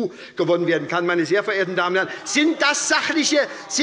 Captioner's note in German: Zurufe von der SPD - Gegenrufe von der CDU